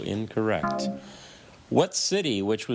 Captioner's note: buzzer buzzes